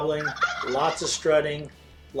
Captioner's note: turkey gobbles